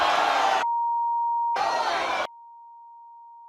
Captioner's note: crowd boos